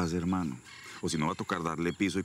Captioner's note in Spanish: exhala